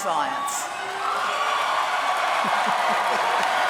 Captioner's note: applause